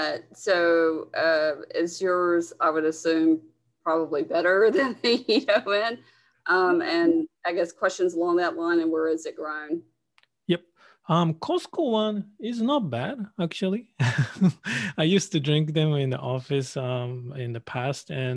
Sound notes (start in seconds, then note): 6.3 woman laughs; 14.0 man laughs